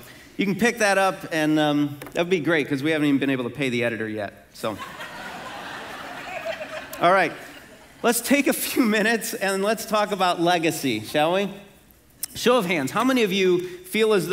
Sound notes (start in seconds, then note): 4.7 congregation laughing